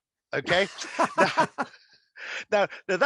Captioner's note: laughing